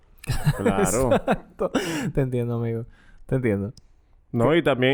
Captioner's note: laughs